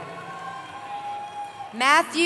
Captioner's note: cheering